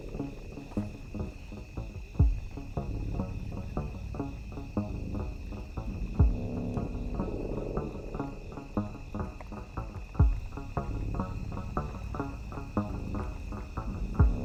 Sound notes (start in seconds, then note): 4.3 bikes humming; 4.3 tense music